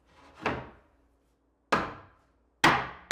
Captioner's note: board thuds; hammer pounding